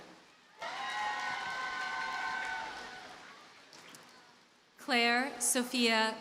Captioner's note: audience cheers and applauds